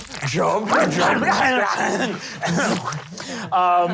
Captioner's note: snarling; laughing